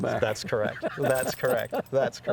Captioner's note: laughs